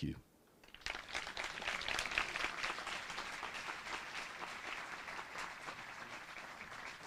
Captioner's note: applause